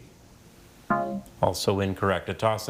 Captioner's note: buzzer chiming; text buzzing